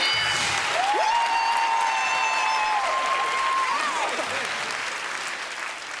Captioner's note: cheers and applause